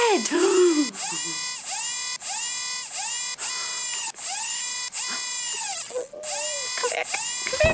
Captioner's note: robot noises continue